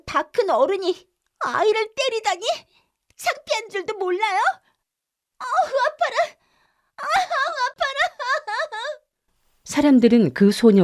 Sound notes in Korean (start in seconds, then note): 7.0 울음; 7.0 웃음